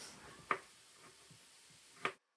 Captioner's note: chop; chop